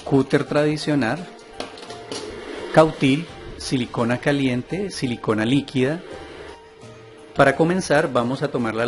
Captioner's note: welding